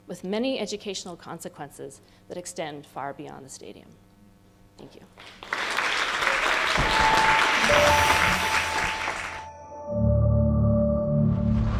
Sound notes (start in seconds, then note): 5.1 applause